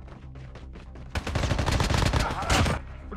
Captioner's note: Firing shots